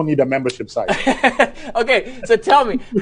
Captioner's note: laughs